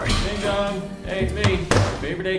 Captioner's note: front door opens; slams laptop shut